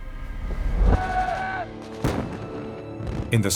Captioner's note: soldiers yell; explosions pop